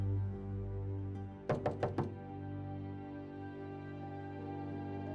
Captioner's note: knock on door